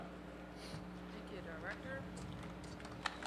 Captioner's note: applause